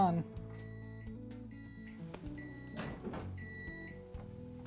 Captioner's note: microwave beeping